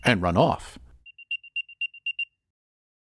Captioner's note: beeping Intensifies